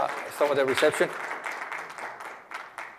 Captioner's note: applause